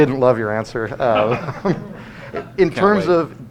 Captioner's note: laughter